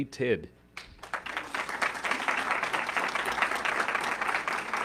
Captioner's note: audience clapping